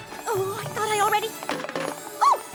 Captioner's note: clatter!